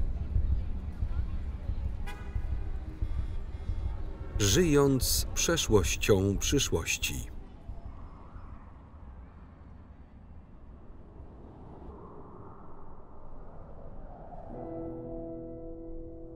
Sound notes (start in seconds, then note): 2.0 horns honk; 2.2 traffic hums